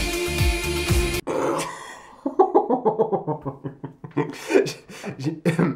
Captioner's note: snorts